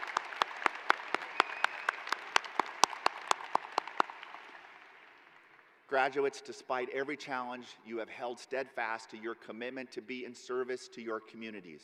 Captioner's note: cheers and applause